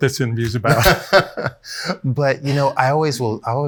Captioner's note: laughs